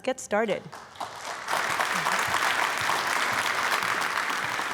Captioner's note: audience applauding